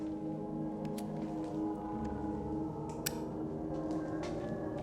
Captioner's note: lighter clicking